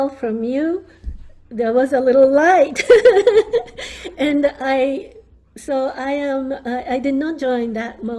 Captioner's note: laughs